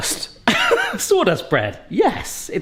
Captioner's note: giggles